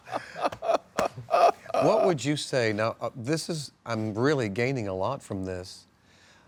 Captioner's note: laughs